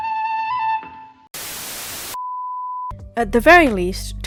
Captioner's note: static